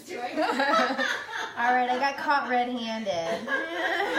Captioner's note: laughs